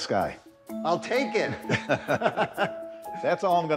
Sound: both laughing

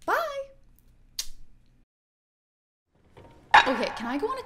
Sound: smooching

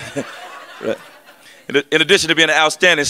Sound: laughter

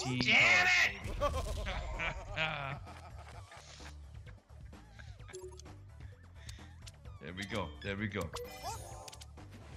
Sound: laugh

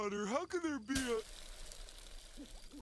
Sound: sizzling

